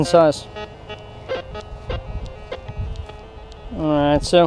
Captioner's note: detector beeps